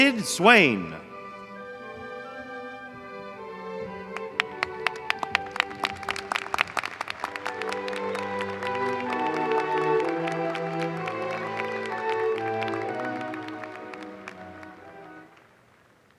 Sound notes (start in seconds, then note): 4.1 applause